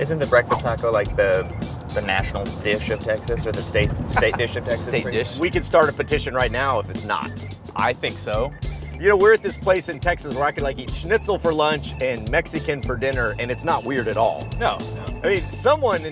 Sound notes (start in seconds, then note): 4.0 chuckles